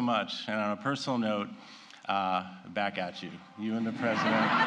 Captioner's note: laughter